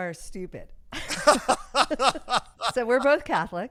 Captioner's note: laughing